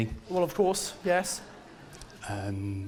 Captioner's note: audience laughs